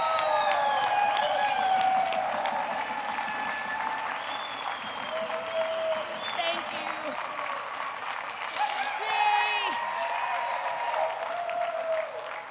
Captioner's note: applause